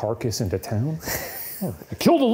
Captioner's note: chuckles